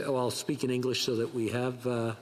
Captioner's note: speaking French